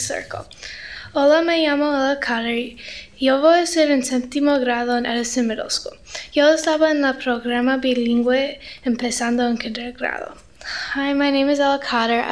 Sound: speaking Spanish

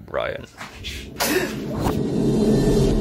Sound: brian gasps

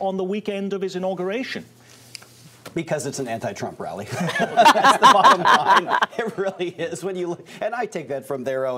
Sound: laughter

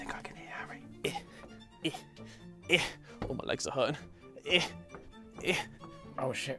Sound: breathing heavily

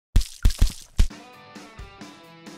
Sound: paint Splattering

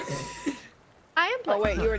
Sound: laugh

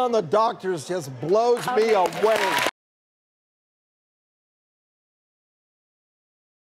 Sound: audience applauding

